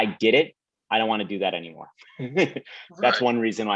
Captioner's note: both laugh